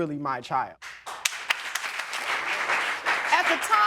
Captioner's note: audience applauding